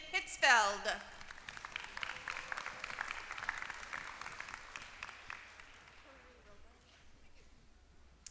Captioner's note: applause